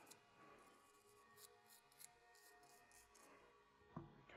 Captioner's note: brush scratches